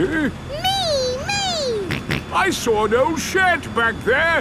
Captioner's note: snorts